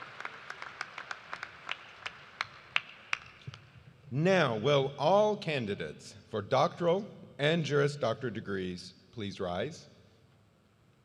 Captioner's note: applause